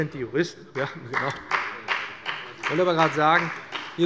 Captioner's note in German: Beifall bei dem BÜNDNIS 90/DIE GRÜNEN und der CDU